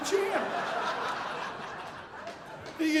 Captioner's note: audience laughing